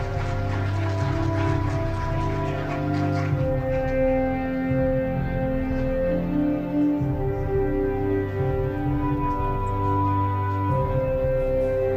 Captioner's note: applause